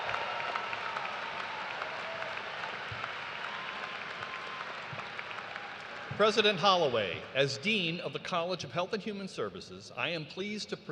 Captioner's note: cheers and applause